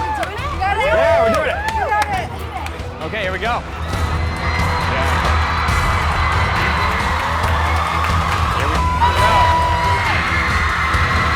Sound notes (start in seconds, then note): 3.6 audience cheering; 4.0 adventure music